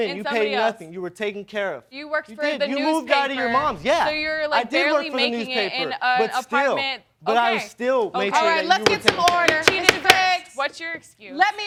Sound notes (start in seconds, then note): 8.8 banging gavel